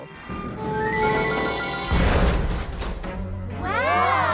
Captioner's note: creaking